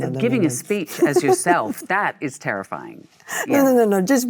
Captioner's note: Michelle laughs